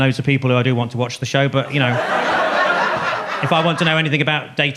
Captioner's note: audience laughs